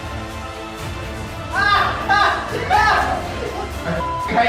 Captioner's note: laughter